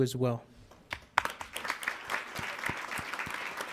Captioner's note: applauding